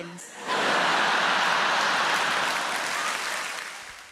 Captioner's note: crowd cheers